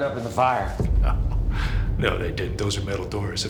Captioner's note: chuckles